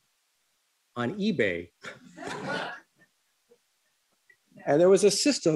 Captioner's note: laughter